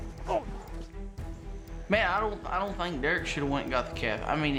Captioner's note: grunting